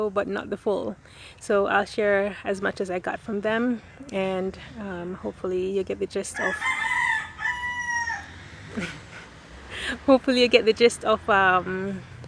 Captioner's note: rooster crowing